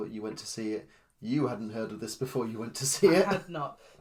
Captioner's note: laughs